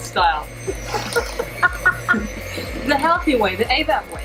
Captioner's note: laughs